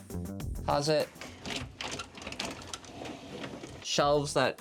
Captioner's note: doors rustling